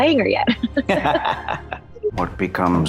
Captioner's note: laughter